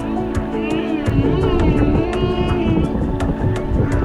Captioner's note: whale groaning